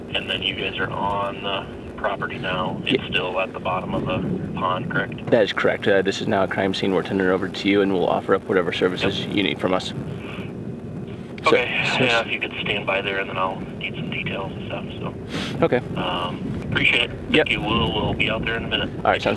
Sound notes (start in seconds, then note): 10.8 over phone; 15.2 sniffles; 16.8 over phone